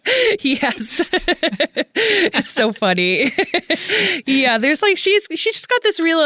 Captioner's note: laughs